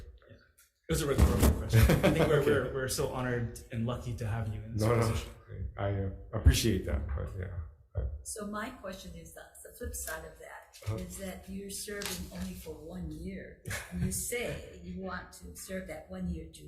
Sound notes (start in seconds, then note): 1.7 chuckling